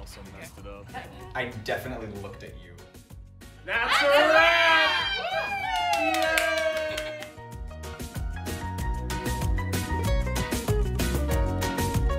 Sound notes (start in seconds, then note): 3.6 all cheering; 7.5 upbeat instrumental music continues